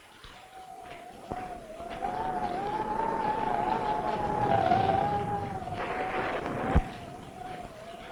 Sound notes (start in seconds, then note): 0.8 thunder rumbling; 2.2 wind howling